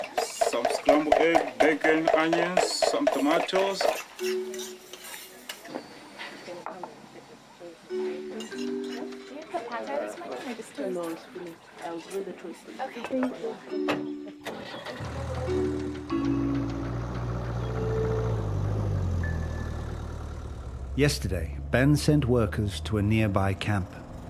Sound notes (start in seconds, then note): 9.6 indistinct chatter; 14.4 engine starts; 14.9 engine revving